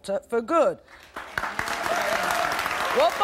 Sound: applause

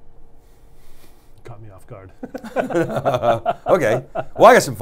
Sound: laughs

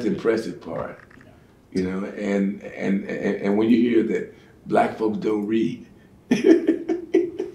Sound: laughing

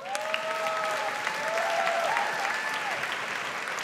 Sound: audience applauds

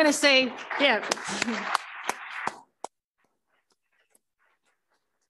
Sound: applause

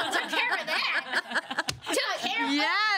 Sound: girls laughing

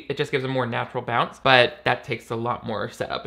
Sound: none

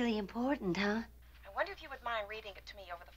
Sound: on phone

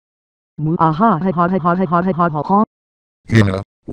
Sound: laughing

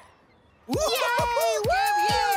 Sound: cheering

